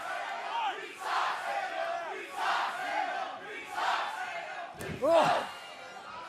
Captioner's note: crowd cheering